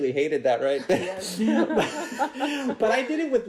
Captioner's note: laughs